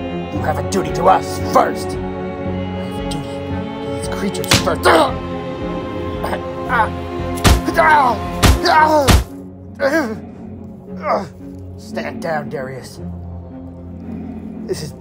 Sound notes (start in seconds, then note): 4.4 smack down sounds; 4.7 Darius grunts